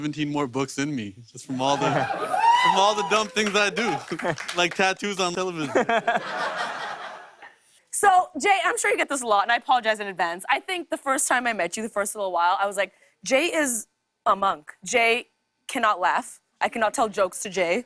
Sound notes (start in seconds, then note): 5.6 laughs